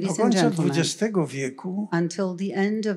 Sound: foreign language

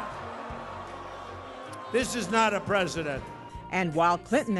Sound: cheers

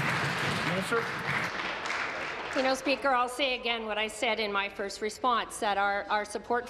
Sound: applause

